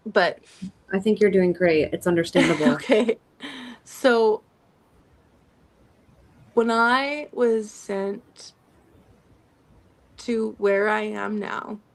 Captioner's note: laughter